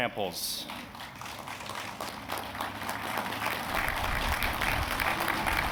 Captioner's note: applause